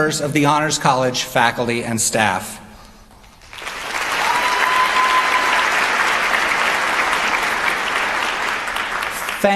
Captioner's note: applause